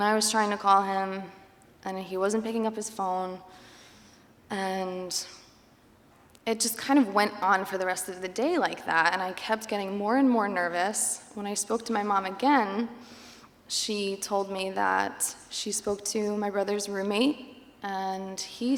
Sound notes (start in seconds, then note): none